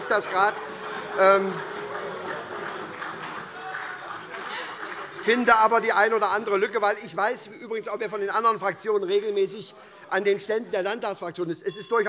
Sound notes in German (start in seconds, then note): 1.7 Heiterkeit und Beifall bei der SPD - Zurufe von der SPD; 11.6 Unruhe - Glockenzeichen des Präsidenten